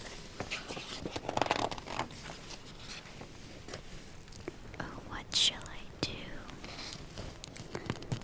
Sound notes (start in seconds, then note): 0.3 flips page